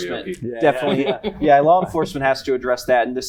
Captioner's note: laughter